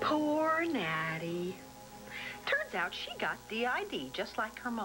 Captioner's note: normal voice